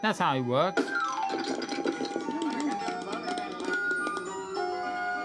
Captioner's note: snowman knocked sound; applause